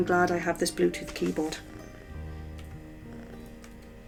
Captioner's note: purring